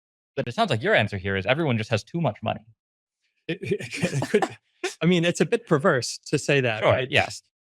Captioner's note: laughs